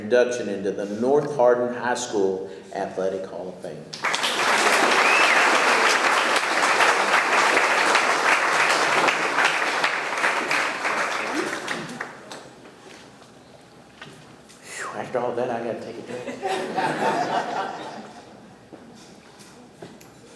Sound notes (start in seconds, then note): 3.9 audience clapping; 16.0 audience laughing